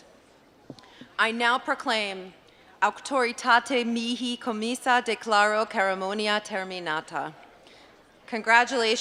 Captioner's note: latin speech